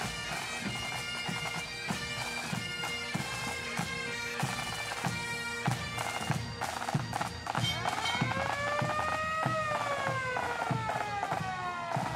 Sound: siren

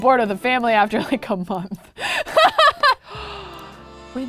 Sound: laughs

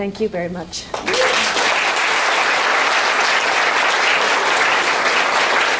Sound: applause

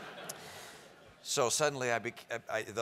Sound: laugh

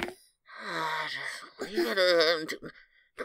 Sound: sighs

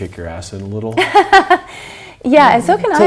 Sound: laughs

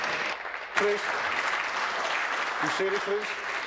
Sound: applause

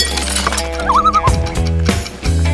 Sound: loon call

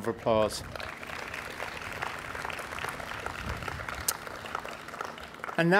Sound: audience applauding

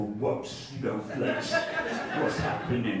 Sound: audience laughing

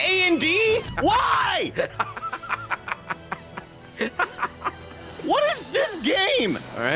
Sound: laughs

